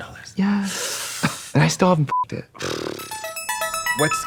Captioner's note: bright electronic music; beeping